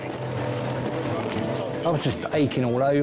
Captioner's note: lifeboat engine whirring